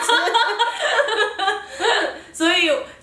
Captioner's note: laughter